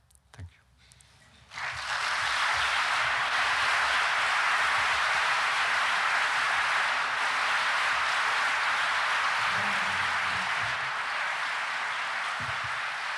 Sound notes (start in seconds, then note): 1.4 applause